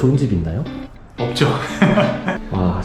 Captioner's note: laughs